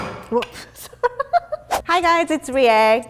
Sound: laughing

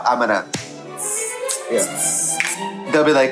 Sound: Trixie clicks fingers and makes percussion noise

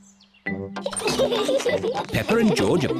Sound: all giggle

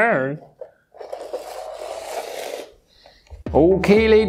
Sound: base scraping

